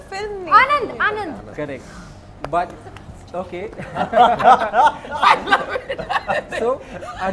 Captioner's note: laughs